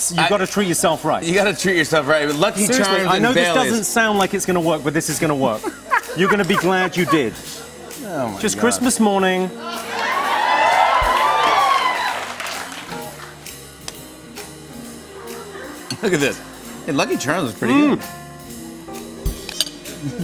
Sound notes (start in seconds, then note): 5.5 laughs; 9.6 cheers and applause